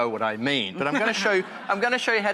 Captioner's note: laughter